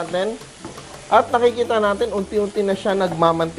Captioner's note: sizzle